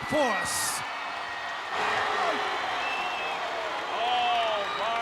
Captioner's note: crowd cheering